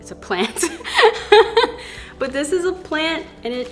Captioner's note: laughs